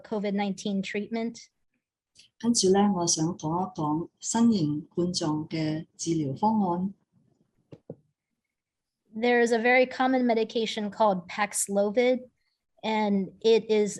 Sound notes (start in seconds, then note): 2.4 non-english speech